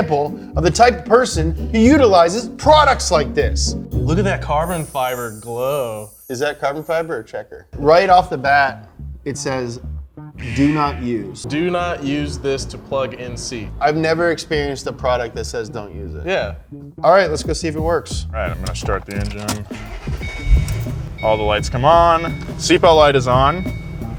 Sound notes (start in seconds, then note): 19.5 engine revving; 20.1 car beeping